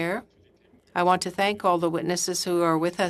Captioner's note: speaking French